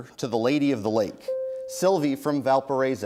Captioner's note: bell rings